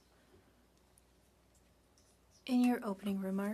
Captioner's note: speaking French